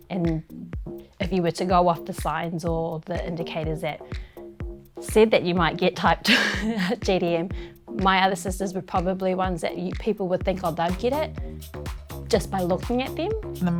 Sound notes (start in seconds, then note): 6.3 chuckles